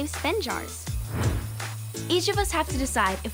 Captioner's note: whooshing